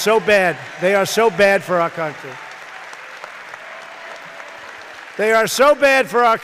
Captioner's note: applause